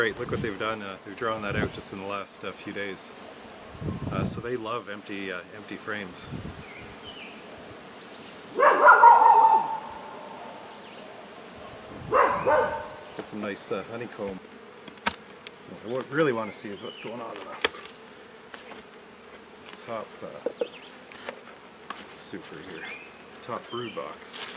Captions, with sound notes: Look what they've done, they've drawn that out just in the last few days. So they love empty frames. (Dog Barks) We'll get some nice honeycomb. What I really want to see is what's going on in the top super here. Top BROOD box.